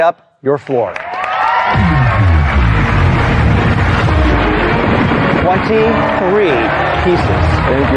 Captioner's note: cheering and applause; dramatic music